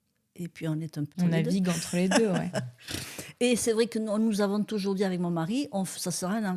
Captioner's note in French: rires